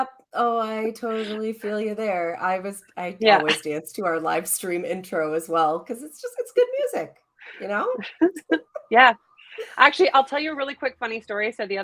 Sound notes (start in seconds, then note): 0.0 chuckles; 7.9 chuckle